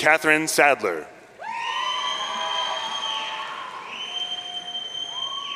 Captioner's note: audience cheering